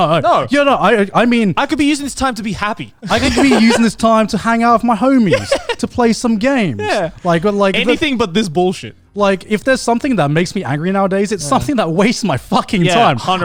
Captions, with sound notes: No, you're not. I mean. - I could be using this time to be happy (laughs). - I can be using this time to hang out with my homie to play some games, like... - Anything like but this. - Like if there's something that makes me angry nowadays, it's something that wasted my time.